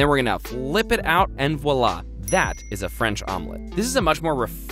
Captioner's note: dings